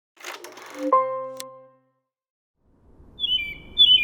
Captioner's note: film reel ticking; light music; birds chirping